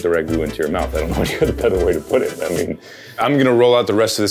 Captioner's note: chuckles